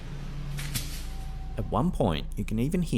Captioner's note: brush cracking